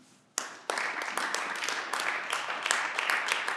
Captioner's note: clapping